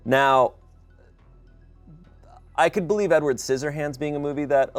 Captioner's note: none